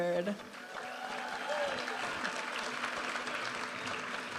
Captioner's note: audience applauding and cheering; upbeat music